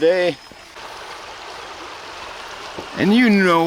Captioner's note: water raging